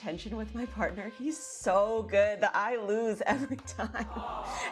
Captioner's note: laughing